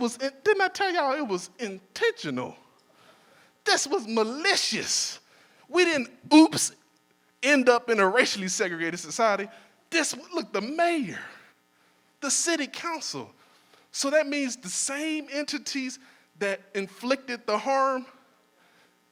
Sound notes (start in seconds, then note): none